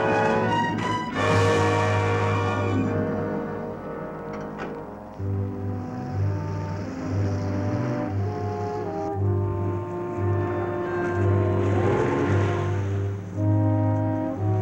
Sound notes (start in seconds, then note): 5.3 truck engine revving; 5.5 somber music